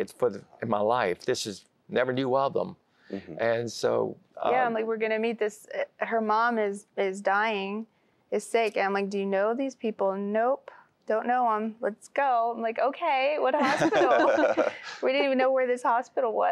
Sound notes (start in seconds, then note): 13.6 laughter